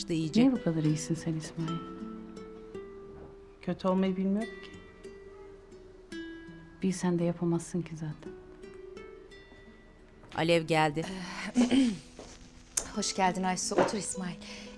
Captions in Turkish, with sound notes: Niye bu kadar iyisin sen İsmail? Kötü olmayı bilmiyorum ki. Bilsen de yapamazsın ki zaten. (Ayak sesi) (Boğaz temizleme sesi) Hoş geldin Aysu. Otur İsmail.